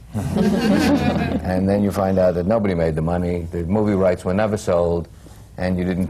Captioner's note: laughter